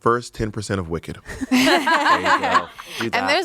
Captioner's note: everyone laughs